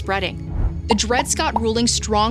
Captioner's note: graphics popping